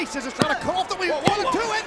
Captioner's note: mat slapping